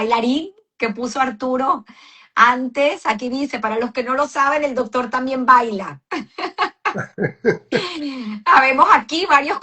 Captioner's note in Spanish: risas